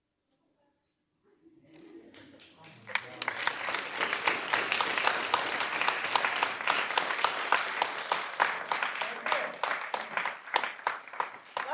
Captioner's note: audience claps